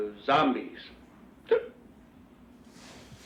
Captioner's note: hiccup